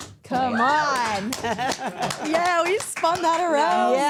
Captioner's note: people clapping